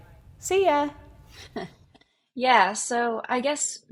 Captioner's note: laughs